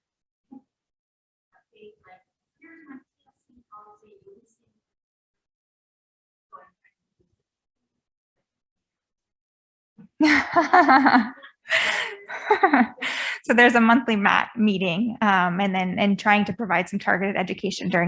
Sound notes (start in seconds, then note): 10.2 laughs